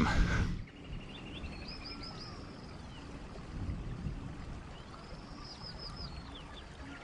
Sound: birds chirping; water flowing

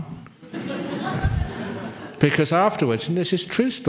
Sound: laughter

